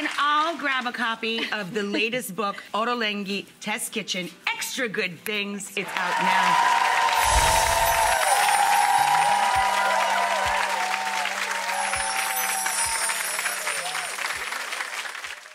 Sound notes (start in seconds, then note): 5.8 audience clapping and cheering